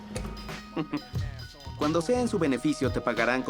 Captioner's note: voiceover